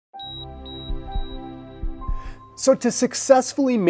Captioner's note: beeping